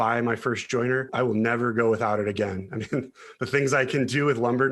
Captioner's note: laughs